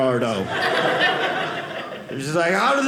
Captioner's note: audience laughing